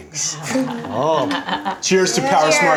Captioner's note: laughing